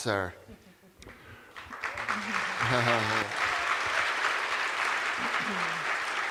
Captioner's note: cheers and applause